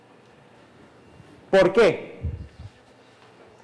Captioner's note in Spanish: micrófono cruje